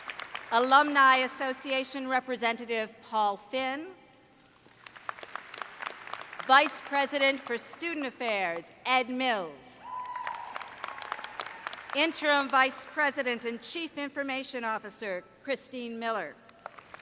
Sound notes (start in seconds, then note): 0.0 applause; 4.5 applause; 11.4 cheering